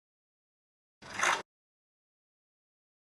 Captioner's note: click